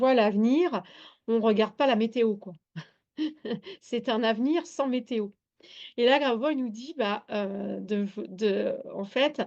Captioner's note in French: rires